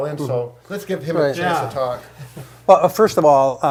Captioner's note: chuckles